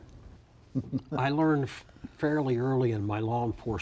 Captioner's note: chuckles